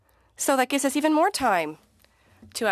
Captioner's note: speaking French